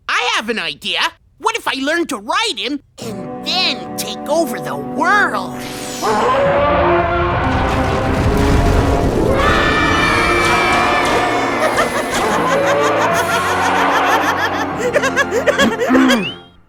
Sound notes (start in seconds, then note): 6.0 roaring; 9.2 screaming; 9.8 maniacal laughter; 10.3 lasers fire; 13.7 maniacal laughter